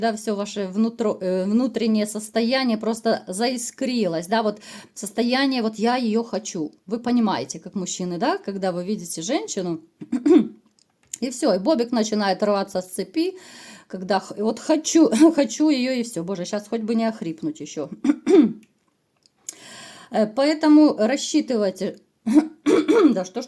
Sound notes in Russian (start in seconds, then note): 10.0 откашливается; 22.3 откашливается